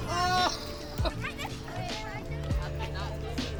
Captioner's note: student exclaims at overturned barrow; relaxed music